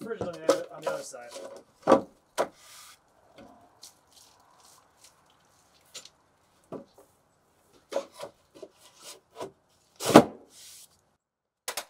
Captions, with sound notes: The first one you had it on the other side. (plank clunks) (plank clunks)